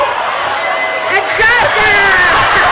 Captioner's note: dinging